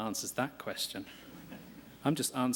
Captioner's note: laughter